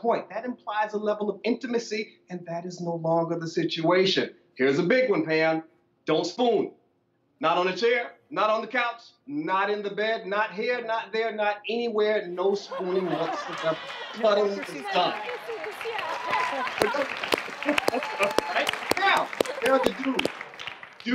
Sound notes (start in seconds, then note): 14.1 laughter; 17.1 clapping